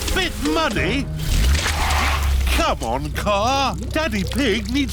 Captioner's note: wheels screech